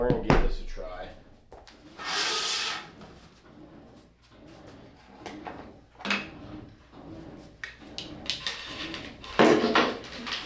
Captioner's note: drilling